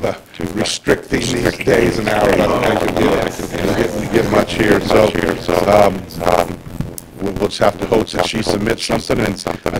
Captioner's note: laughter